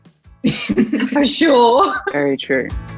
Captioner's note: Jessie laughs